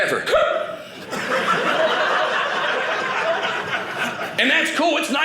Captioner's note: audience laughing